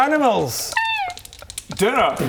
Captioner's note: roasted bird noise